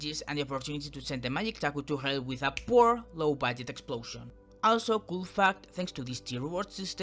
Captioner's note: snaps fingers